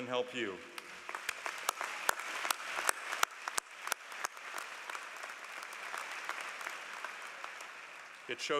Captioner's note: applause